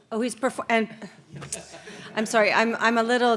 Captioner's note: audience laughing